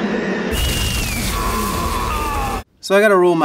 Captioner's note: actress screaming; woman shrieking; man shouting